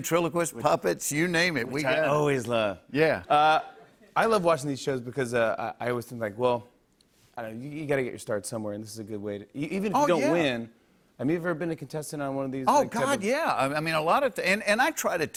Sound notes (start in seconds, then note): none